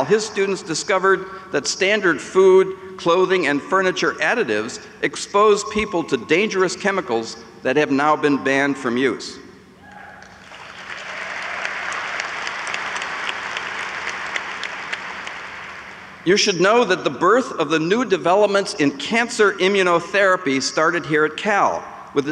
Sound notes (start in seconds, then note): 10.3 audience applauds